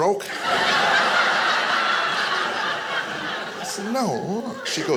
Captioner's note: audience laughing